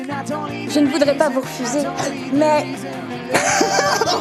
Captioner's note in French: hoquet; Rires